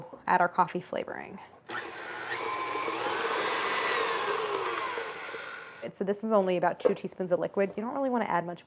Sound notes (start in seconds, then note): 1.6 machine whirring